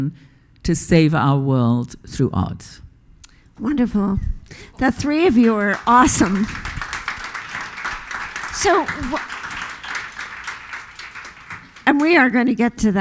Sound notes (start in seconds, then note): 6.9 audience applause